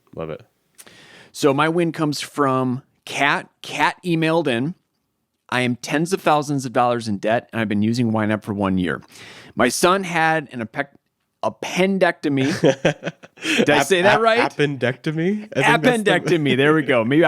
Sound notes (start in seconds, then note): 12.4 chuckling